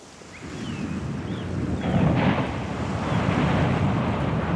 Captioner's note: ocean roaring